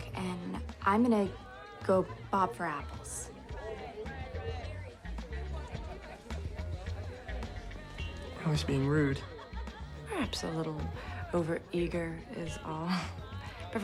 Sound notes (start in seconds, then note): 4.5 groovy music; 4.5 people chattering